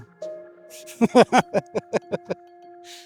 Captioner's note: laughing